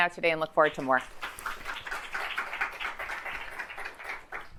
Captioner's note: audience clapping